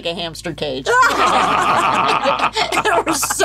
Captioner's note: all laughing